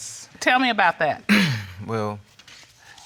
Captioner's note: clears throat